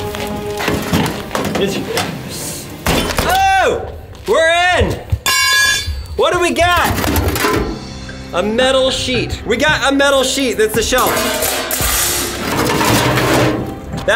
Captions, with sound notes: Oh! We're in! (crowbar clanking) Whatta we got? A metal sheet. We got a metal sheet, that's the shell. (metal clanking)